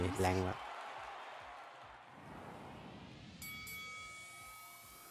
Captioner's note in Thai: ปรบมือ